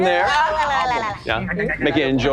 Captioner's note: all imitating munching